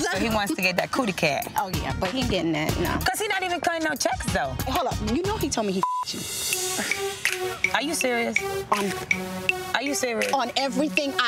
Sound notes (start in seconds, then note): 5.8 beep